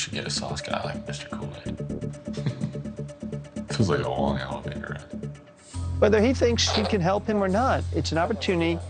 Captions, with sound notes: We should get a sauce guy like Mr. Kool-Aid. (laughs) It feels like a long elevator ride. - Whether he thinks (gentle suspenseful music) she can help him or not,